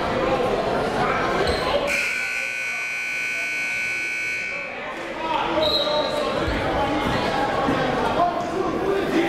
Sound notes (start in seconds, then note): 1.8 buzzer goes off; 5.6 whistle blows; 6.9 crowd talking